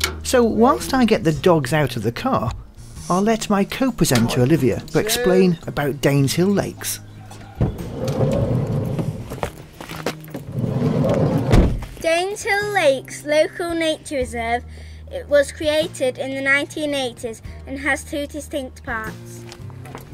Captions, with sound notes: So, whilst I get the dogs out of the car, I’ll let my co-presenter Olivia to explain about Daneshill Lakes... (sound of car door sliding open) (sound of car door sliding closed) “Daneshill Lakes Local Nature Reserve was created in the 1980s and has two distinct parts.”